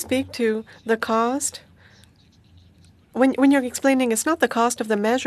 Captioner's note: speaking French